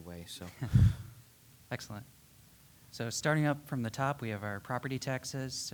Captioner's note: laughs